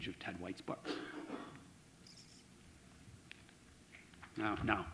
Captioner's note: coughing